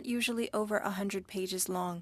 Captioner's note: speaking French